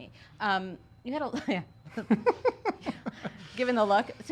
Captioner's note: laughing